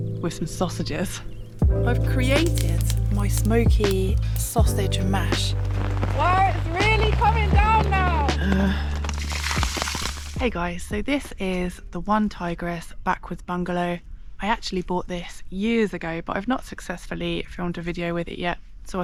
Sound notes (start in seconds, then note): 5.8 rain; 8.1 rain; 9.0 splosh